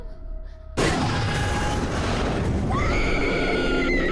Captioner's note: object thudding; monster howling; sudden ominous music; Brandy screaming